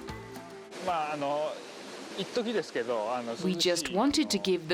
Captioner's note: speaking in foreign language